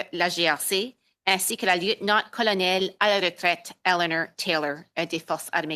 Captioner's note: speaking French